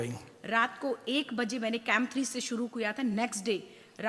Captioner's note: speaks foreign language